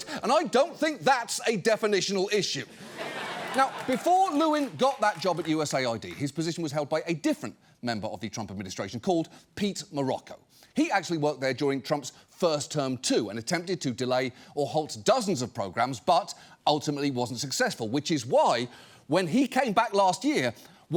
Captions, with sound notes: and I don't think that's a definitional issue. (AUDIENCE LAUGHS, APPLAUDS) Now, before Lewin got that job at USAID, his position was held by a different member of the Trump administration called Pete Marocco. He actually worked there during Trump's first term, too, and attempted to delay or halt dozens of programs, but ultimately wasn't successful, which is why, when he came back last year,